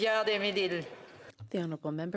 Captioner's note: speaking French